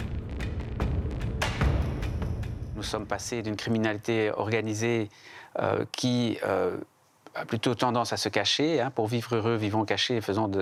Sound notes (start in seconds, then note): 3.1 French spoken audio